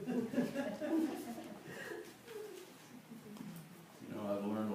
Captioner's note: laughter